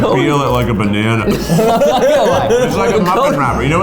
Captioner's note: laughing